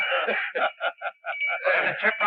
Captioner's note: both chuckles